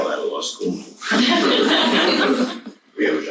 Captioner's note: audience laughs